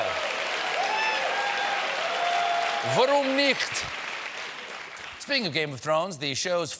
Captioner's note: cheers and applause